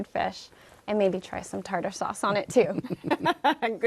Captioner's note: laughter